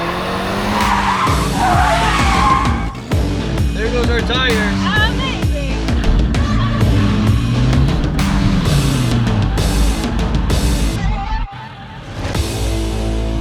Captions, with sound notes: (tires squeal) - There goes our tires. - Amazing.